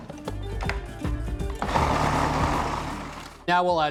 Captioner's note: whirring